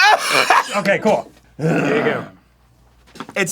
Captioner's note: grumbles; cough from from deep within the larynx